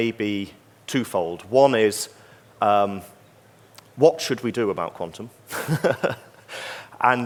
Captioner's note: laughs